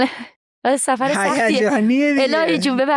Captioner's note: laughs